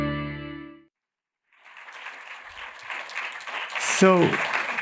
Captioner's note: applause